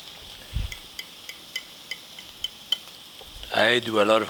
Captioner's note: fork clanging